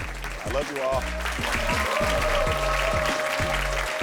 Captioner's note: audience cheering and applauding; instrumental music